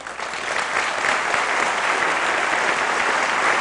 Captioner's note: applause